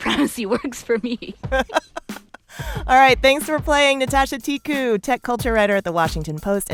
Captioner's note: laughter